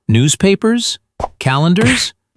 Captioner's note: thwack!